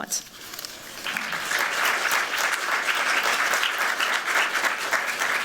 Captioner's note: applause